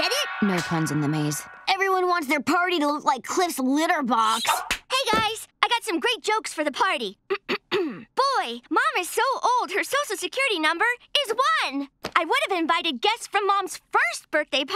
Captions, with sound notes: No puns in the maze. Everyone wants their party to look like Cliff's litter box. Hey, guys, I got some great jokes for the party. [clearing throat] Boy, Mom is so old, her social security number is one. I would have invited guests from Mom's first birthday party,